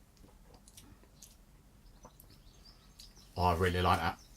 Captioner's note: smacks lips